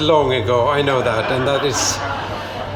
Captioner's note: laughter